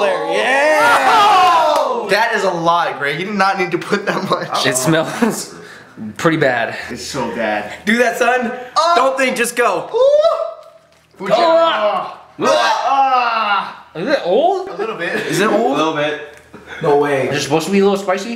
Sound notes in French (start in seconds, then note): 11.2 gémissements